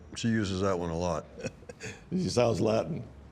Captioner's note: laughter